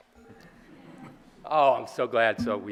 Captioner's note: audience laughing